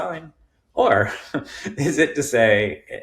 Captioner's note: chuckling